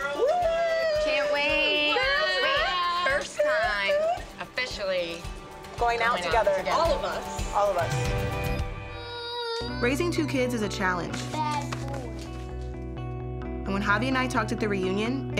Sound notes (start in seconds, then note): 0.0 overlapping cheering; 8.9 crying